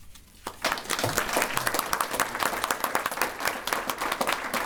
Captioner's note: audience applause